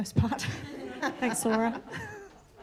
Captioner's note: laughter